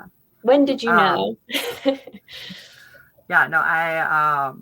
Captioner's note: laughs